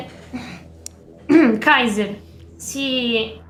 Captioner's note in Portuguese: Limpa a garganta